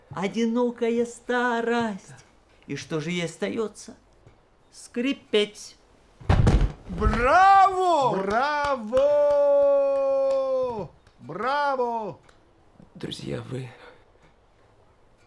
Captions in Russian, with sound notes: Одинокая старость. И что же ей остаётся? Скрипеть. (ГРОХОТ ПАДЕНИЯ) Браво! Браво! (АПЛОДИСМЕНТЫ) Браво! Друзья, вы...